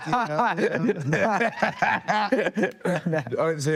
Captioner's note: Cody laughs; Timothee laughs